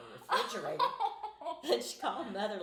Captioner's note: laughing